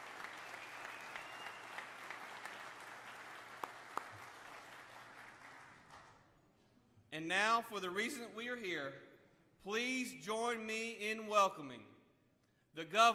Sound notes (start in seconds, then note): 1.8 applause